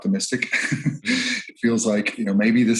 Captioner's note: chuckles